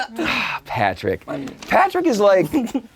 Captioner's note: laughs; sighs